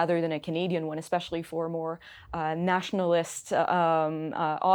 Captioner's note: speaking in French